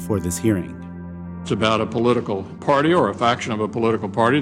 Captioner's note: soundbite of archived recording